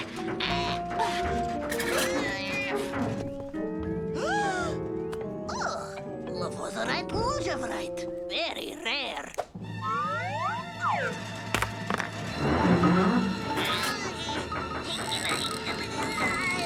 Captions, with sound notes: (Milo grunts) (Otto gasps) - Oh, lovozerite lujavrite, very rare. (dramatic orchestral music) (rock whistles) (rock clatters) (carts whine) (Milo grunts)